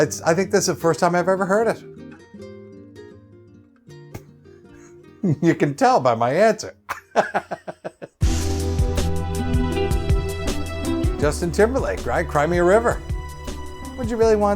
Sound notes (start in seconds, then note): 3.2 chuckles; 8.2 credits music